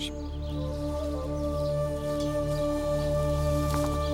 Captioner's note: birds